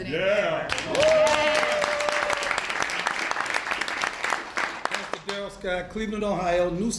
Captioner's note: applause